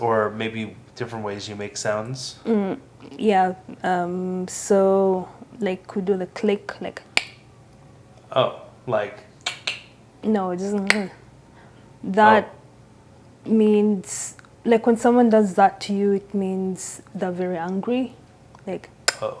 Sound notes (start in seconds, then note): 7.0 click mouth sound; 9.4 click mouth sound; 19.0 click mouth sound